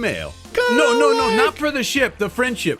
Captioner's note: makes "hinting" noises